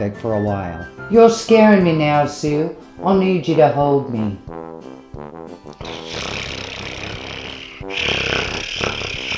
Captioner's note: cat purring